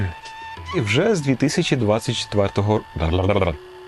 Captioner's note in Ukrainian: заплітається язик